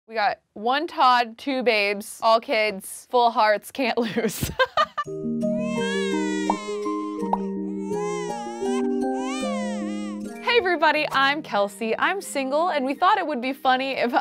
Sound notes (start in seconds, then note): 4.3 laughing; 5.5 baby crying